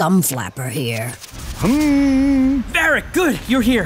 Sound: humming

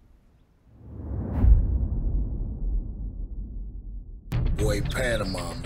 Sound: air whooshing

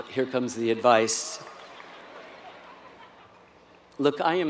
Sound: laugh

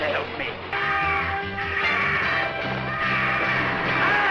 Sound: angry squawking

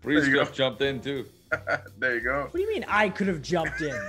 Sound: laugh

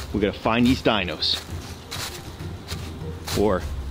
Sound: footsteps rustling

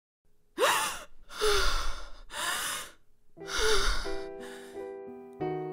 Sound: gasping, panting

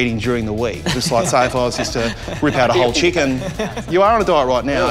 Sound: laughs

